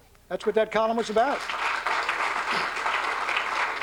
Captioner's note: applause